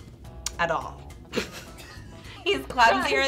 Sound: laughing

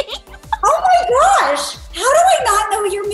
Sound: all giggle

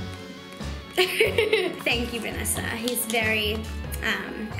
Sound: laughs

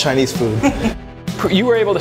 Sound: laughs

